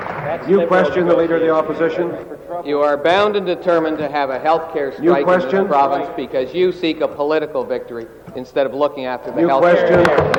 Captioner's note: some Applause